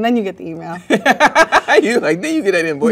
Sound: man laughs

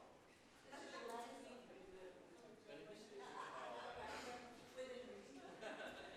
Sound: people chattering and laughing

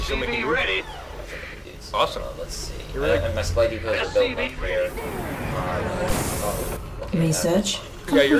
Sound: laughs

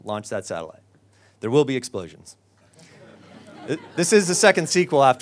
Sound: audience laughs

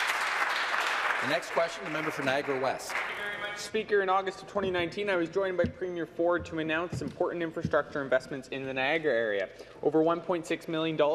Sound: some Applause

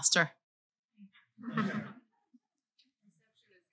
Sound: laughter

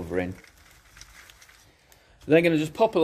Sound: soil shuffling

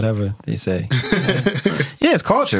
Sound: laughing

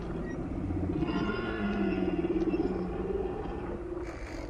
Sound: animal roar

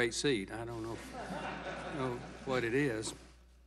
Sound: laughter

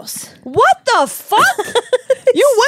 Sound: laughs

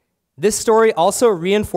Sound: none

